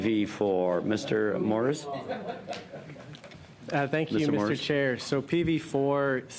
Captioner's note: laughter